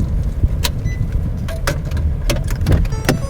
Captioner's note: beeping